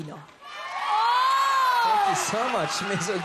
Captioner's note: crowd cheering